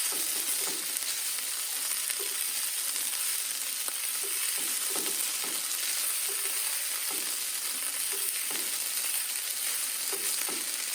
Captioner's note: sizzling